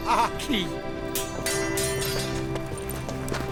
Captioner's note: sword clatters